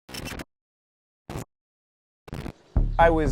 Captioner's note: static